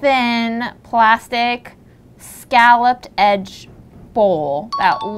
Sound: bell dinging

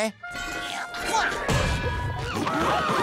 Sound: grunting; chattering

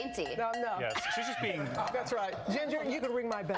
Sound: ringing the bell

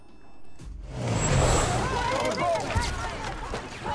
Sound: reporters yelling

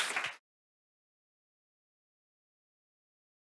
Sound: audience applauding

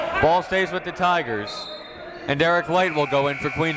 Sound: whistle

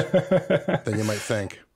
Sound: laughs

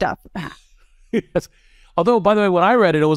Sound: laugh

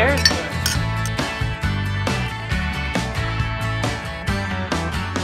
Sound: glasses clink

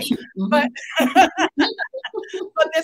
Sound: both laughing

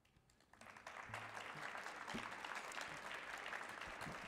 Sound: audience applauding

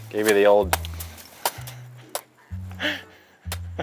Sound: chopping squash; laughing

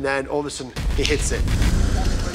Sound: man snaps fingers

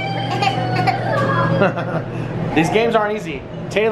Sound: crying

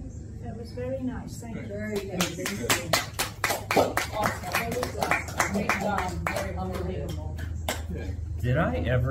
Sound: applause

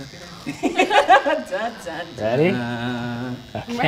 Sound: people laughing

